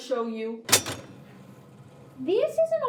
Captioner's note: electronics beeping